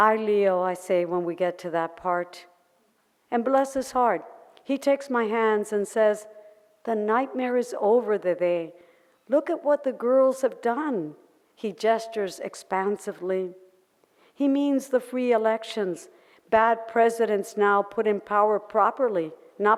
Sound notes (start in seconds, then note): none